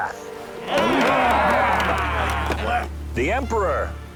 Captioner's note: yells